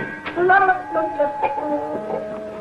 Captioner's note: Billy humming; whimsical music